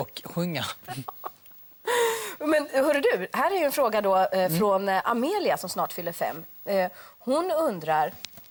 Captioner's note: laughs